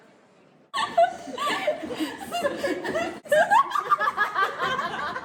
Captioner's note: laughing